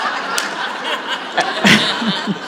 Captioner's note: audience laughs